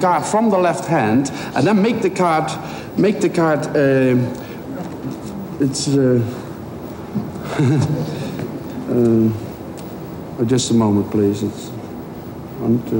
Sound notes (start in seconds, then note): 7.3 laughs nervously